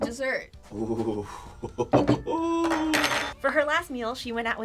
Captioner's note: laughs